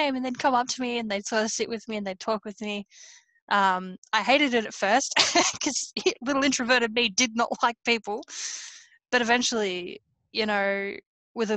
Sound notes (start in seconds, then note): 5.2 laughs